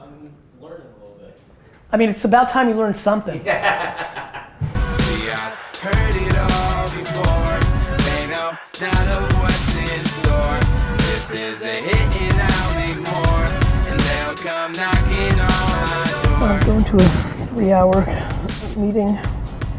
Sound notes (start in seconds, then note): 3.4 laughs